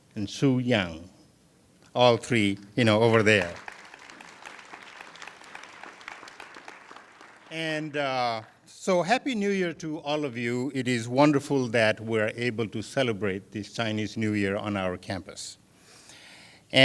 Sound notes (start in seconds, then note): 6.8 applause